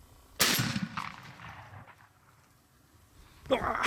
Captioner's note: gunshot; male laugh